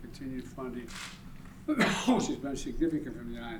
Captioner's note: coughs